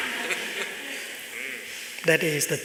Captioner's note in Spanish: Risas